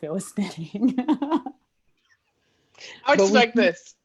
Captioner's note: laughs